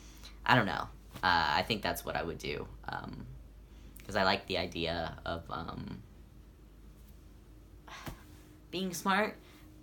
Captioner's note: sigh